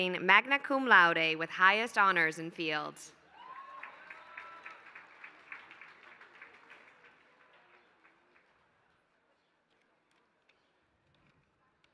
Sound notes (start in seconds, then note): 3.3 applause